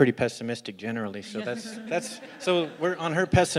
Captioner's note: laugh